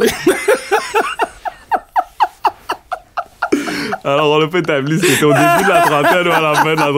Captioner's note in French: rires